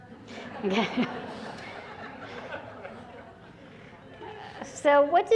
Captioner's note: laughter